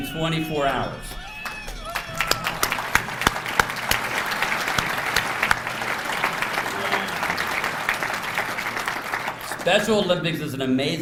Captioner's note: applause